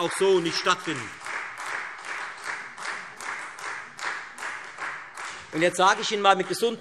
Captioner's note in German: Beifall Freie Demokraten